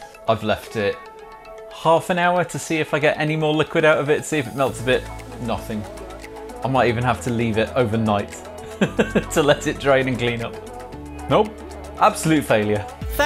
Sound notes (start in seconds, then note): 8.7 laughs